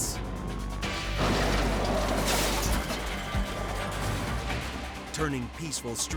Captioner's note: tires screeching; vehicles thudding